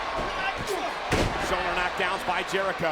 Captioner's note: Orton thuds